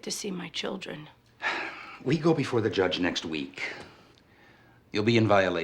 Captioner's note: sighs